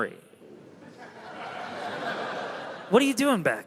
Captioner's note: crowd laughs